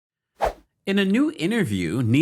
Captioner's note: air wooshing